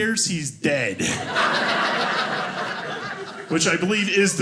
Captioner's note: audience laughing